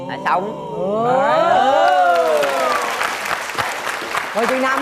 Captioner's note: cheering